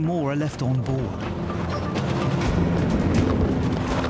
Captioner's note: water whooshing; wind whooshing; intense music